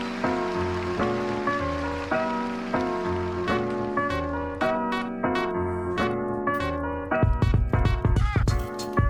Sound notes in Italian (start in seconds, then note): 0.0 Applauso